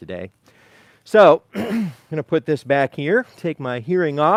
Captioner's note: clearing throat